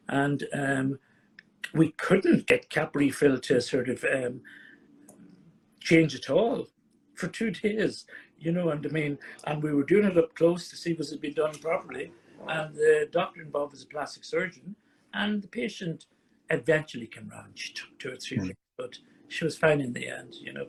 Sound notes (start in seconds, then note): 9.0 chuckles